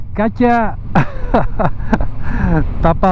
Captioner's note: laugh